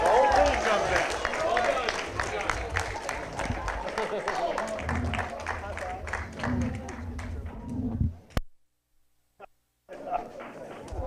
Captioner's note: applause